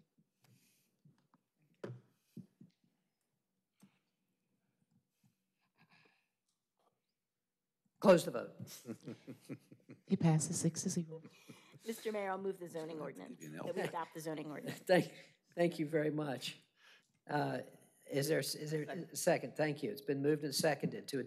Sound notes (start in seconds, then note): 13.6 laughter